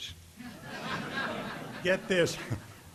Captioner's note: audience laughing